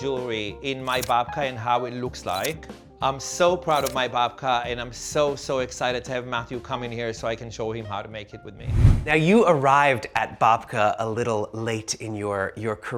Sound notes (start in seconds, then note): 8.6 air whooshing